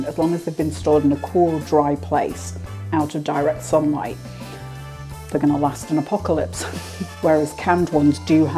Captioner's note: laugh